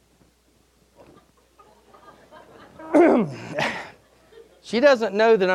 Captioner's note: audience laughing